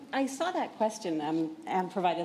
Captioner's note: none